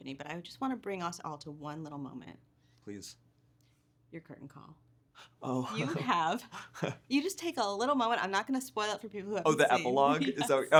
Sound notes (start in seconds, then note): 5.7 chuckling; 9.6 laughing